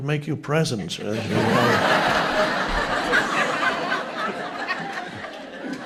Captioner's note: audience members laughing